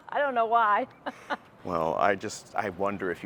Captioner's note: laughs